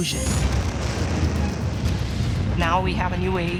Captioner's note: explosion